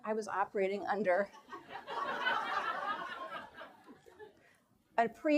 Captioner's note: audience laughs